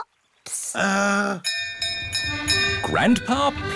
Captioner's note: bell rings